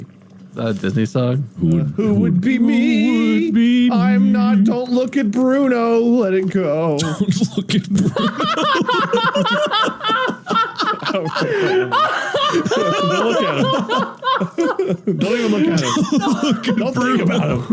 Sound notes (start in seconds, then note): 8.1 cackles in the background; 10.1 laughter